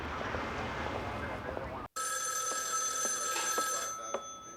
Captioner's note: phone ringing